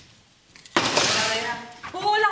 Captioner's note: Spanish